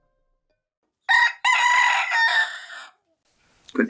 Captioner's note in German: Hahn kräht